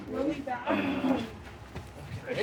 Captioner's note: groaning